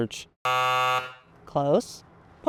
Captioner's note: incorrect Buzzer Noise